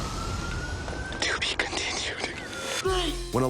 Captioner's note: whispers